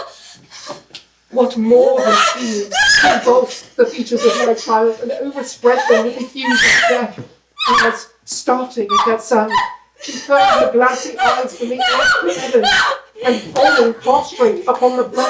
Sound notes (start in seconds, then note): 0.0 gasping cries; 1.8 pained cries; 7.0 shriek; 7.6 shrieking intensifies